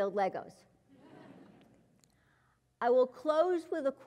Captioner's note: laugh